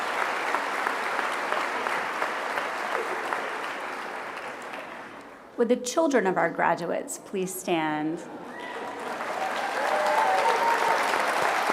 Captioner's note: applause